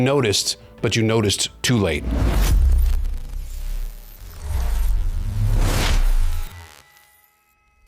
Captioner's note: electronic buzzing